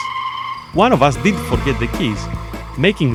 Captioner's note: car